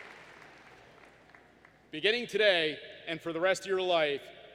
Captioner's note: applause